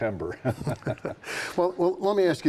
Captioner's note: both chuckling